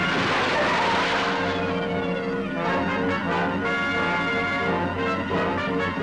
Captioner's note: dramatic music; tires screeching